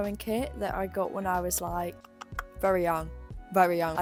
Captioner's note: clicks tongue